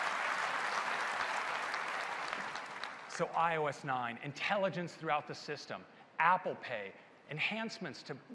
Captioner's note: applause